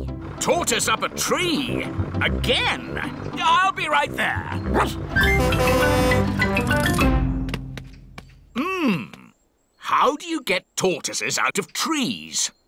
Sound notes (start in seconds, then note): 4.6 horn honking; 4.7 barks